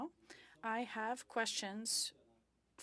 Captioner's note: speaking French